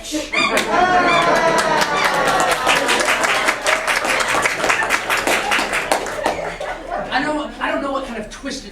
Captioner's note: applause and groans